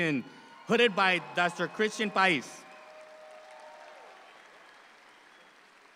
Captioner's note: audience applauding